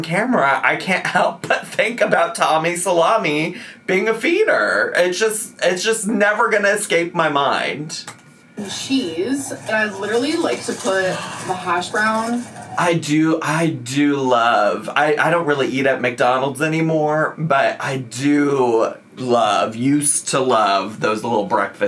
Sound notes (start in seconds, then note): none